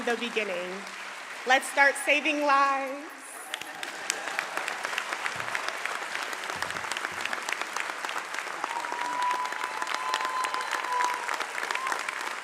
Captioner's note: applause